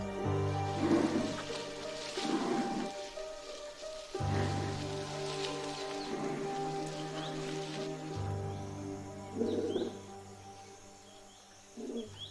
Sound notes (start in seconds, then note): 0.6 groaning; 7.2 birds tweeting